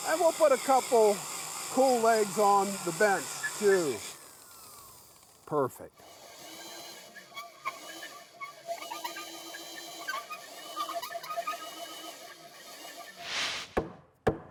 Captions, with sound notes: and we'll put a couple cool legs on the bench too. Perfect. (drilling)